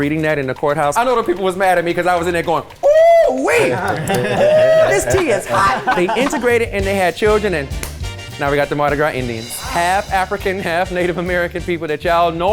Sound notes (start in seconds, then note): 3.3 guys laugh; 7.6 hand claps